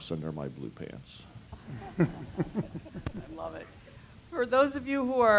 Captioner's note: laugh